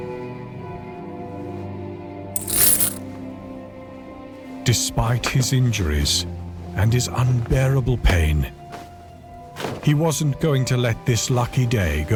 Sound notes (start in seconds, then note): 2.3 coins clattering